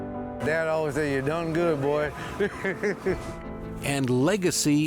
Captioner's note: chuckles